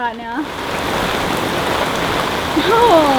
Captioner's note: rain pours